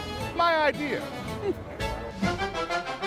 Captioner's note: chuckles; upbeat music